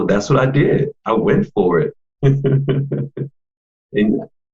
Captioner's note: laughs